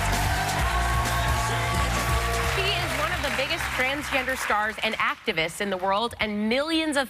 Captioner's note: cheers and applause